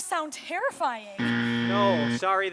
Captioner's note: buzz